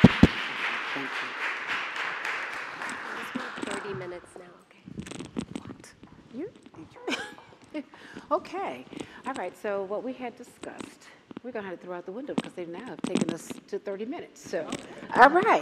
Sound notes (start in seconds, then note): 4.3 applause